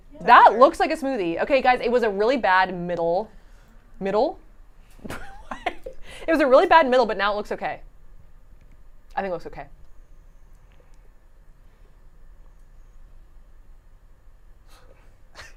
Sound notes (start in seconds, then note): 5.0 laughing